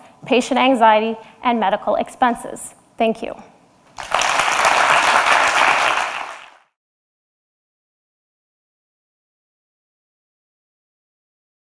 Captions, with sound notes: patient anxiety, and medical expenses. Thank you. (audience applause)